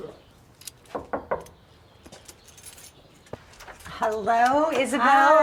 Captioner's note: knocking door